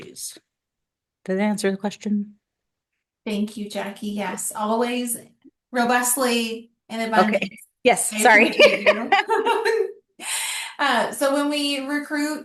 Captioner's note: laughter